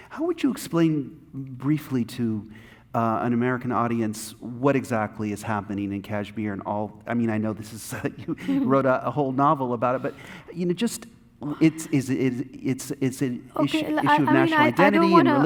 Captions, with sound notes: - How would you explain, briefly, to an American audience, what exactly is happening in Kashmir and all... I mean, I know this is... (laughing) You wrote a whole novel about it. But just it's... It's an issue of national identity, religion...